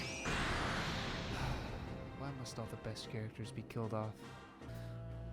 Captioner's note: sigh